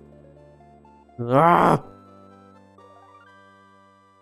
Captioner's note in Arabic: تئن